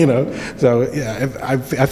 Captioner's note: laughs